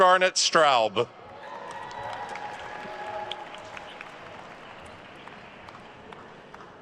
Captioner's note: attendees cheering and applauding